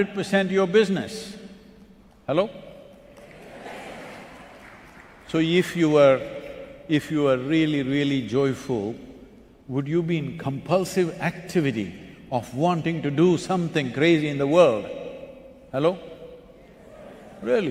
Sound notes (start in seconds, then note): 3.0 applause